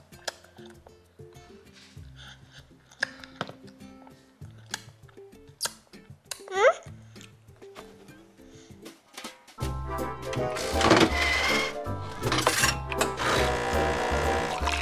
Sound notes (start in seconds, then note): 0.3 lips smacking; 4.6 jazz music; 9.7 coffee machine processing